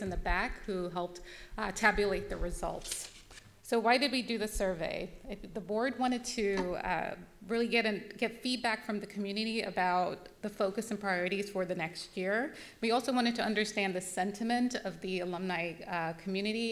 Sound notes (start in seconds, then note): none